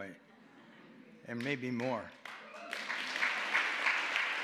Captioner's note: audience laughing; applause